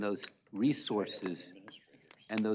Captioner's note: indistinct chatter